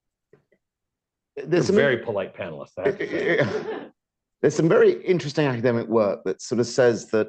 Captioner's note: laughter